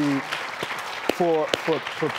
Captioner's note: clapping